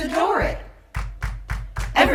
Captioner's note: clap clap clap